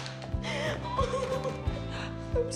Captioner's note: sobbing